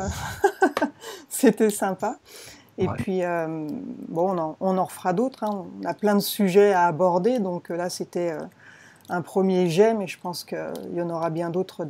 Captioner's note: laughs